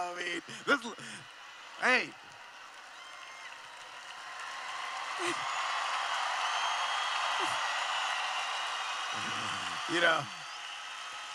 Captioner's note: cheering